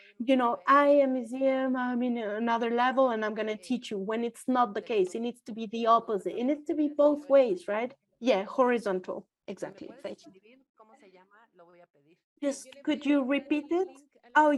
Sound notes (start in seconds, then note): 11.1 speaks foreign language